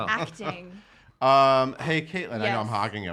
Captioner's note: laughing